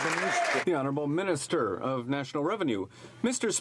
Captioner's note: some Applause